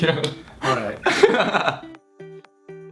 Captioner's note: giggles; laughing; gentle music